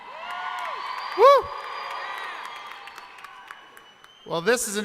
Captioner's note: cheering